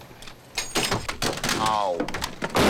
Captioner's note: ordnance rattles